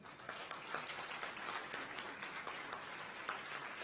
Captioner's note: audience applauds